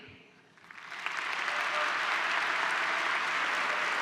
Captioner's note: applause